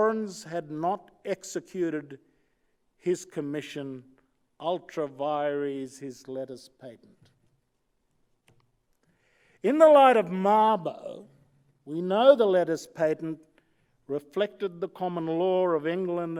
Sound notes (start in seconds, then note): none